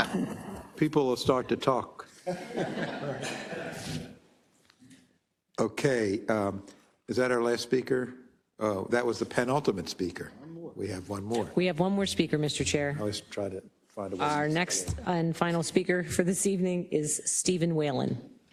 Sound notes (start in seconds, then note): 4.3 laugh